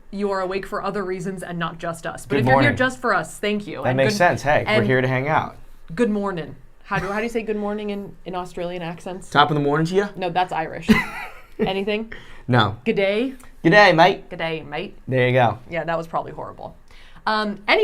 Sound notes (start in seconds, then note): 10.9 laughing?